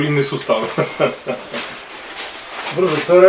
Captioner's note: laughing